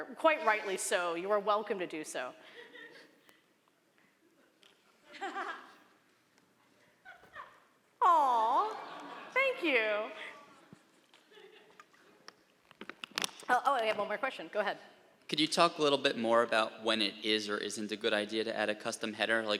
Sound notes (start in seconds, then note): 5.0 laughter